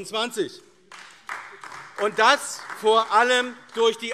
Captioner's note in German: Beifall AfD